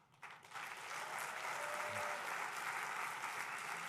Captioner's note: applause